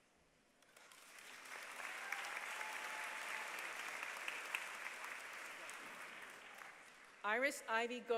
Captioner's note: applause